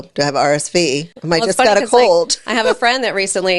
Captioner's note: laughs